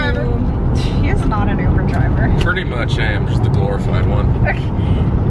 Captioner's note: laughs